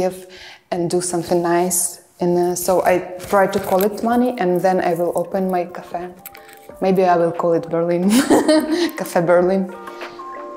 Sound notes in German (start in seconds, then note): 9.4 lacht